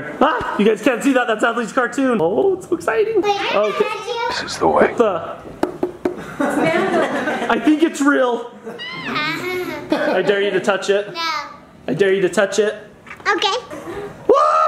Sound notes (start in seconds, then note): 5.5 knocks on helmet; 8.6 laughs unimpressed